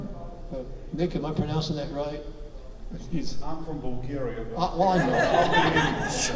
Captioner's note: audience laughs